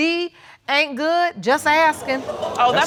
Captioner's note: audience exclaiming